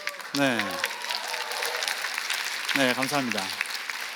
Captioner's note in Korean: 박수